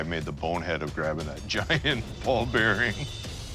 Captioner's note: laughing